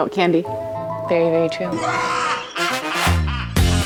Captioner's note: maniacal laugh; upbeat music